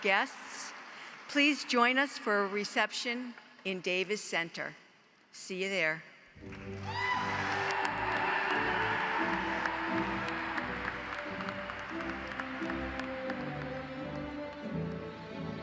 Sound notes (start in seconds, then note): 6.4 audience cheers; 7.9 audience applauds; 9.6 upbeat music